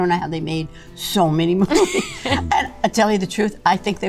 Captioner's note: laughs